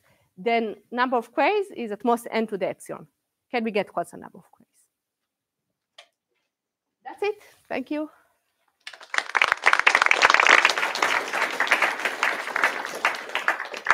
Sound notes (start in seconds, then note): 8.8 applause